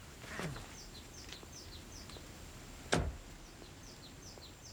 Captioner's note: birds chirping